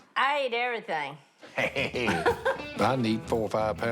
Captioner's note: laughter